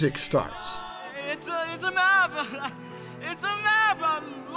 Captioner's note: laughing